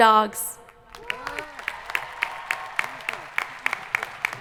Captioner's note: crowd applauding